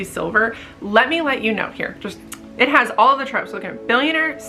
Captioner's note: tsk